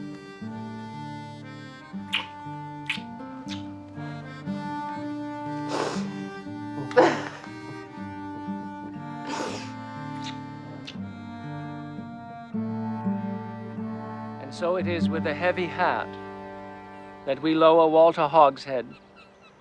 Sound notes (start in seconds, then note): 5.3 Martha sniffling and laughing; 9.1 sniffling; 10.0 kissing